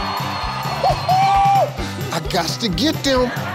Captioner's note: audience cheers; Steve hoots; audience laughs